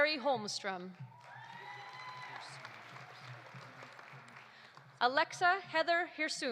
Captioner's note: audience applauding; audience cheering